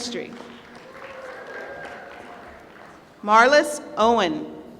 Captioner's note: applause